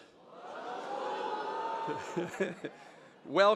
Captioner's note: audience cheers; chuckles